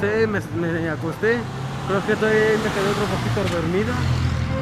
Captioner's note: damn noisy cars